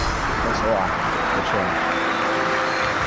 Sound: applause

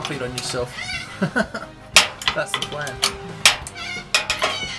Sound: chuckles; tools clanking

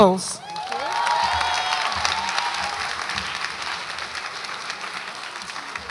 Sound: audience applauds and cheers

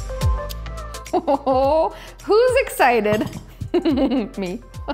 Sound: laughs; chuckles

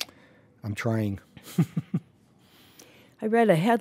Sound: laughs

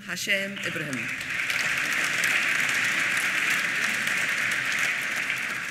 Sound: applause

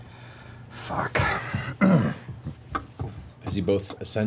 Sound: clears throat

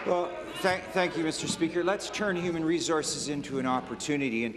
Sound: applause

